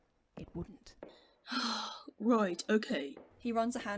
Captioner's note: sighs